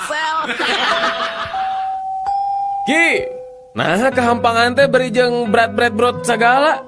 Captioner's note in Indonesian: tertawa